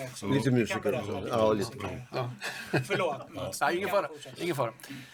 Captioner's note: laugh